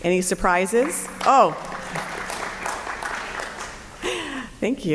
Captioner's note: applause